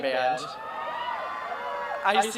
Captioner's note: cheering